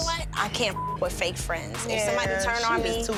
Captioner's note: beep